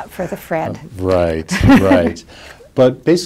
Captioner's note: chuckles